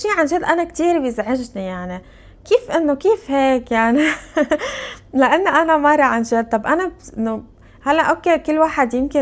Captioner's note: laughs